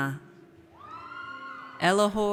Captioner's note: audience cheers